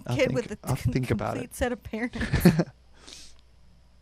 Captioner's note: both chuckle